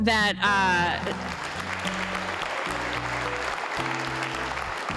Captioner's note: audience applauding